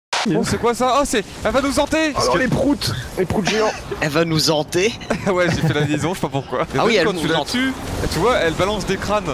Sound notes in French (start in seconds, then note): 5.0 rire